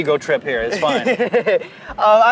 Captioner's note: laughs